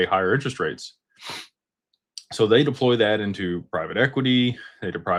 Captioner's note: snorts